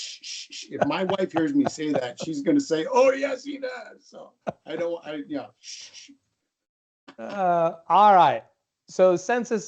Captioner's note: shhh shhhh; shh shh